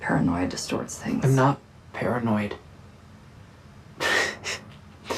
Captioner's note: laughs